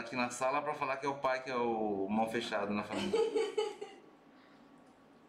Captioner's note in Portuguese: risos